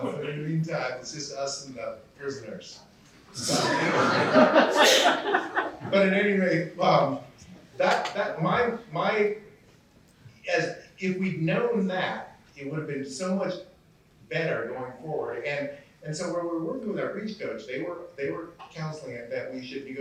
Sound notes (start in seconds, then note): 3.4 laughter